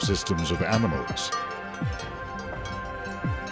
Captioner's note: cow bell ringing